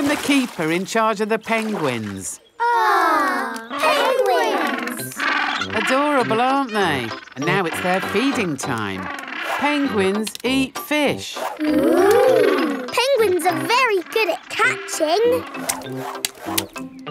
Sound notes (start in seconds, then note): 4.8 penguins chatter